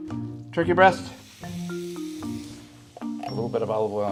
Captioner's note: oil sizzling